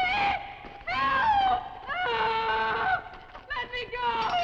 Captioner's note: screams